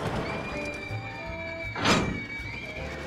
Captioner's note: riders screaming